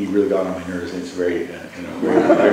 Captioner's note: laughter